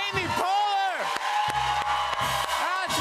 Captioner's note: cheers and applause